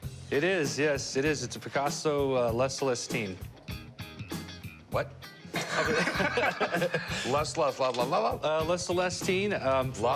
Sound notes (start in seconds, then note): 5.5 laughter